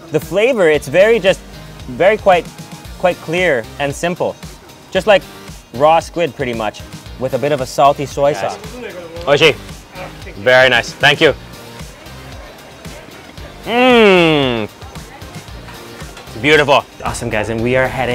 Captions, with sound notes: The flavor, it's very just, very quite clear and simple. Just like raw squid, pretty much with a bit of a salty soy sauce. (speaks in foreign language) Very nice, thank you. Mm! Beautiful. Awesome, guys.